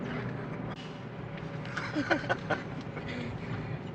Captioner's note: both laughing